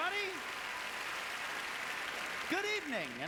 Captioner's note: applause